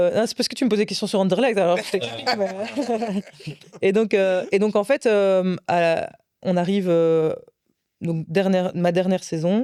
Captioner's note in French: rires